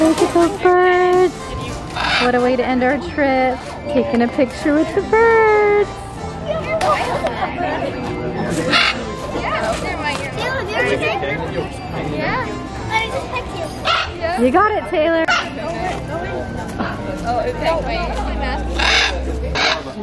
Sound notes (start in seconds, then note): 2.3 birds squawking; 6.7 group chattering; 8.1 birds squawking; 9.5 group chattering; 13.6 birds squawking